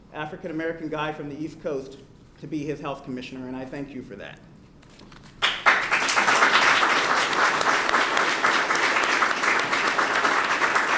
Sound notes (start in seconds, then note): 5.4 applause